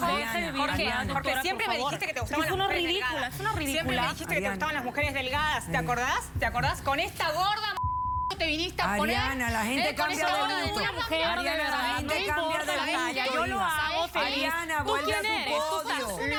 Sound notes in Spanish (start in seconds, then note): 7.8 Bip; 14.9 Hablan al unísono